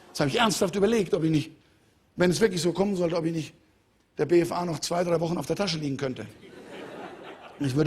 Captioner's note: Lachen